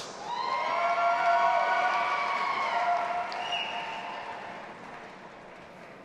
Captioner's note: audience applauding and cheering